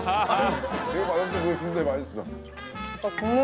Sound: laughing

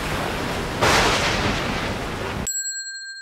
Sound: thunder crashing; bell dinging

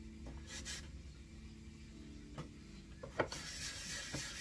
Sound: scraping

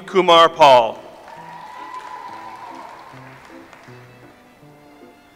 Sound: audience applauds

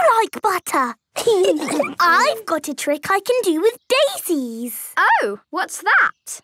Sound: laughter

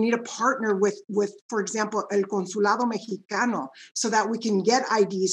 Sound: speaking in Spanish

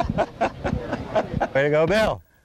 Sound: laughter

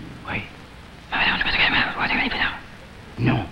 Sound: man whispers

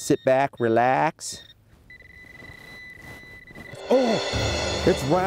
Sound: beeping

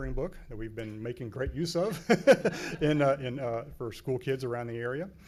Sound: laughs

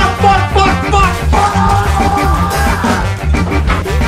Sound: yelling that filled with Madness

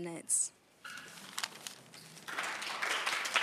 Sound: applause

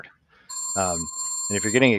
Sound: phone ringing

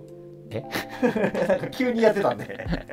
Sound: laughing

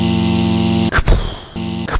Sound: buzz; pound; pounding footsteps

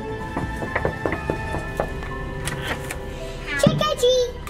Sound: knocking on door

